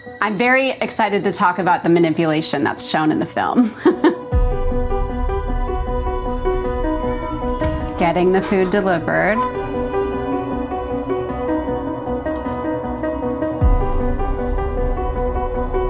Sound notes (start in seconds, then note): 3.6 laughing; 5.4 suspenseful music; 10.3 suspenseful music